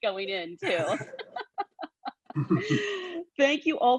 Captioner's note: laughs